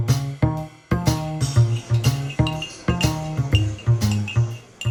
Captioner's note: sounds of a cafe